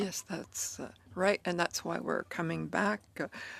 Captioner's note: speaking French